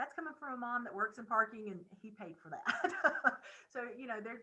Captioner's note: laughing